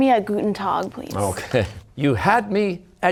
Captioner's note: chuckling